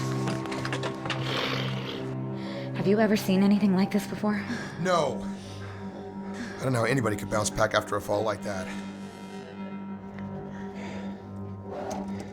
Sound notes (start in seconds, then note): 1.0 growls